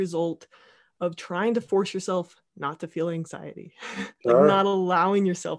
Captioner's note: laughing